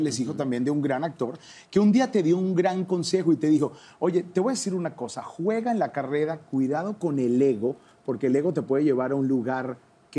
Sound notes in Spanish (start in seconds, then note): none